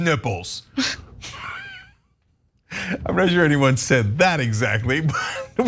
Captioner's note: laugh; laugh